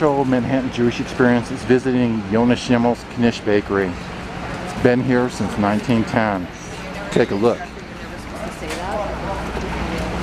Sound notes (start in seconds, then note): 3.8 traffic rumbling; 7.4 customers chattering